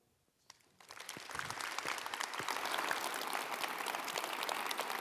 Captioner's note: audience applauds